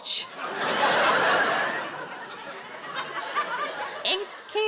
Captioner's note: audience laughs